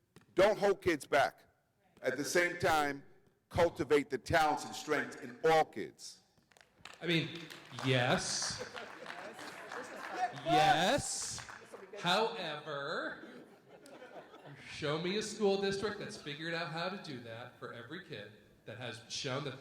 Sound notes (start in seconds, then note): 9.4 audience members clapping; 13.1 light laughter